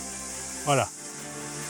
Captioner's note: in Portuguese